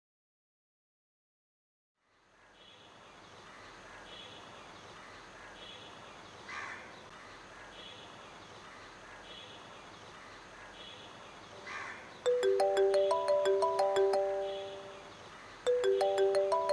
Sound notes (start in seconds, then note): 7.1 birds chirping; 12.2 mobile ringtone